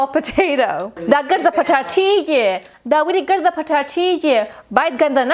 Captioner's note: speaking foreign language